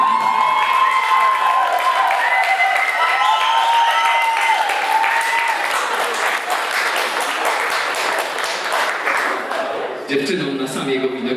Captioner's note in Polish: Aplauz